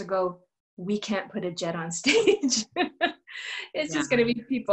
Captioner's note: laughter